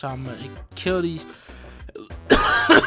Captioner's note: cough